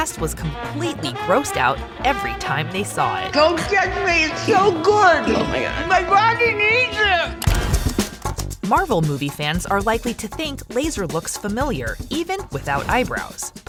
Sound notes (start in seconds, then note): 7.6 keyboard clicking